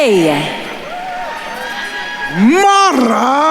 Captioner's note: attendees cheering and applauding